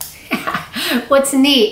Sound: chuckles

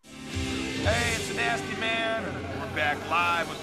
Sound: radio Announcer

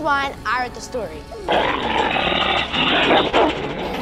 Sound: Direwolf howl

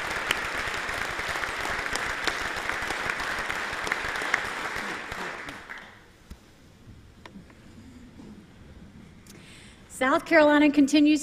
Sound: applause

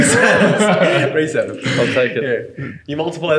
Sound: laughing

